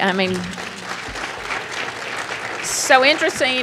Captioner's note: applause